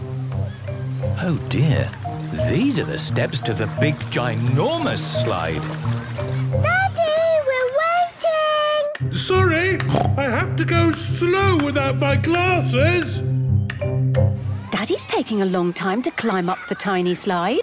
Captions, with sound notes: Oh dear. These are the steps to the big ginormous slide! - Daddy! We're waiting! - Sorry! (snorts) I have to go slow without my glasses! - Daddy's taking a long time to climb up the tiny slide.